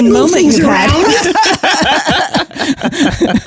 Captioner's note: laughs